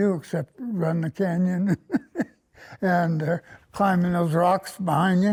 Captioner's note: laughter